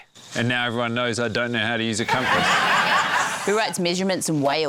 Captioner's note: laughter